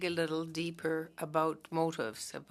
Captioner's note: speaking French